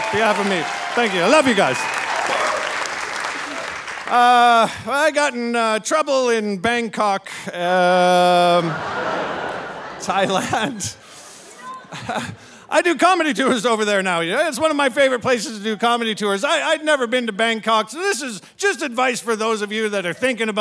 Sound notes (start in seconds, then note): 2.3 audience cheering and applauding; 8.3 audience laughing; 11.6 laughing